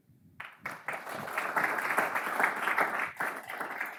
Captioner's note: audience applauds